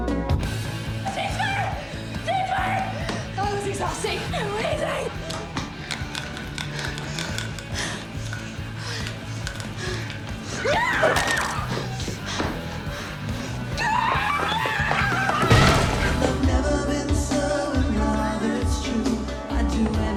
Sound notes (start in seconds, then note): 6.0 heavy panting; 10.2 yells